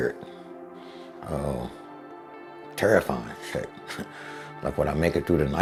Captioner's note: chuckling